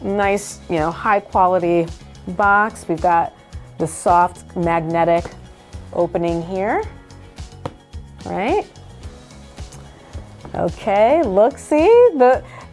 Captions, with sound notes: nice, you know, high quality box. We've got the soft, magnetic opening here, all right? (box clicks shut) Okay, look, see?